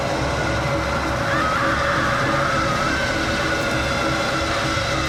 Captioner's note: screaming